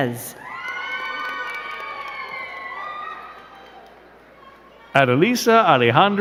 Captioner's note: crowd cheering and clapping